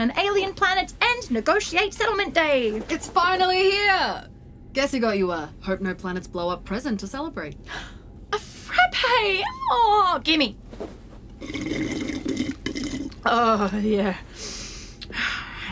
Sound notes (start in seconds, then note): 11.4 grabs, slurps